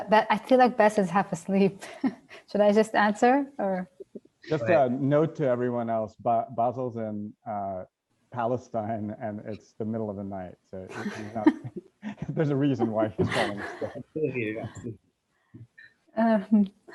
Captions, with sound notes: I feel like Basel's half asleep. Should I just answer? Just a note to everyone else, Basel's in Palestine and it's the middle of the night. So there's a reason why he's [laughing].